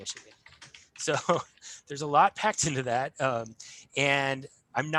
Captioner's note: chuckles